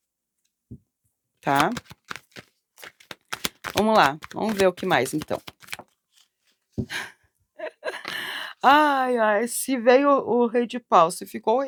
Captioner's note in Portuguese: risadas